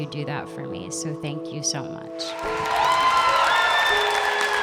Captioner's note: applause